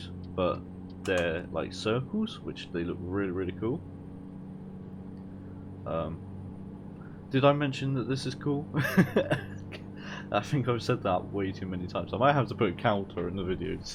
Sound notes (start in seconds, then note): 8.8 laugh